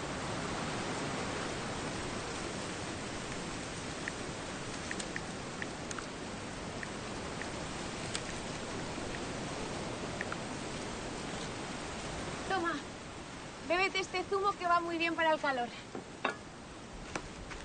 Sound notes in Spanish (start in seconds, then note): 4.8 Ruido al teclear